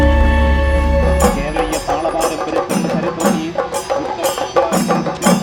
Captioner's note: announcement continues